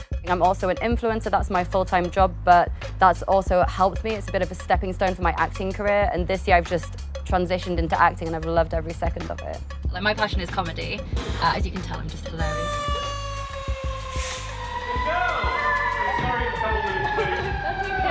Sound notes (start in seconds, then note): 12.5 sirens wailing